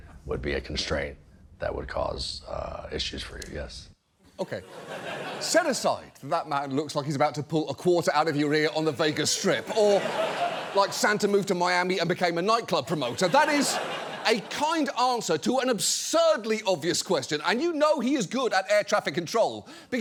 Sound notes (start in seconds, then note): 8.4 studio audience laughs